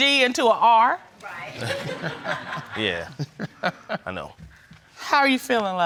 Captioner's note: laughs